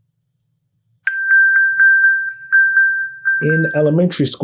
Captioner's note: electronic bell